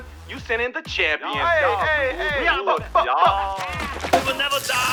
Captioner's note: cheers